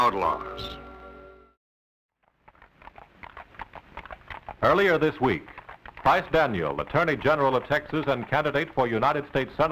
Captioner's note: voice of film narrator